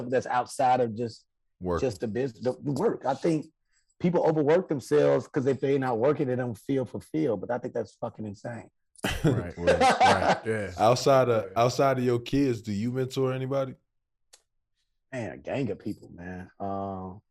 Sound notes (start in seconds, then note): 9.0 Rel laughing